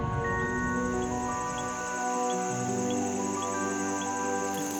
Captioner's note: insects chirp